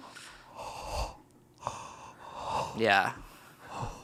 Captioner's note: breaths